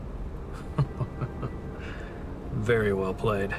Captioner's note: laughing